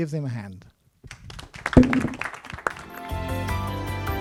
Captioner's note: clapping